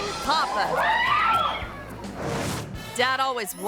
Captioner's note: kids screaming